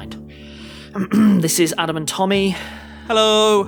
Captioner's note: coughs